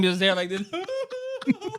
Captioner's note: laughing